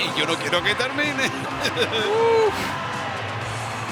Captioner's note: laugh